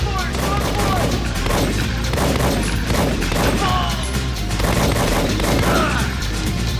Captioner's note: dramatic music; gunshots blasting